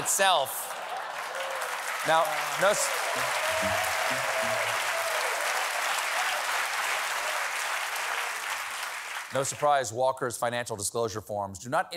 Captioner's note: applause